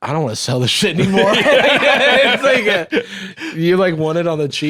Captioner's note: both laughing